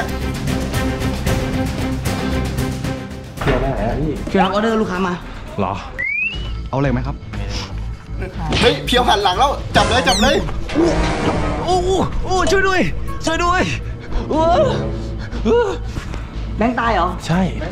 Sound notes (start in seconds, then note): 0.0 orchestral music playing; 8.6 radio; 10.8 yells; 14.0 sighs; 14.3 yelling continues